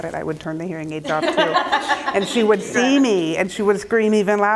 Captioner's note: laughter